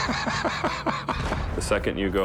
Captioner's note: laughter